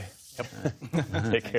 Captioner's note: laughter